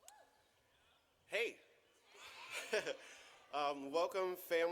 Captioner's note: chuckles